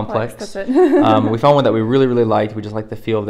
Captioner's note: laughs